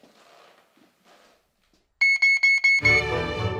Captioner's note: beeping; classical music